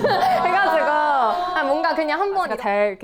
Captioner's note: squeals